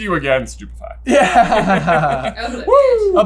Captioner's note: laughs